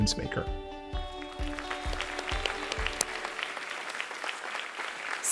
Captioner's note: applause